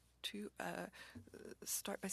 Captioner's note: speaking French